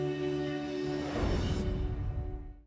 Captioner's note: lively music; whooshing graphic